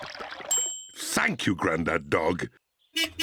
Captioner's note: bell dings; horn beeps